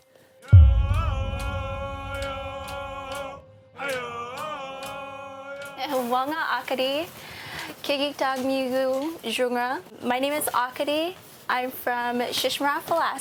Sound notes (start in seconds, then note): 0.5 singing and drumming; 5.7 speaking iñupiaq